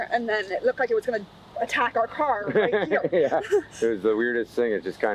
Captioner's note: laughing